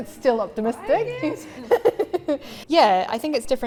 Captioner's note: laughs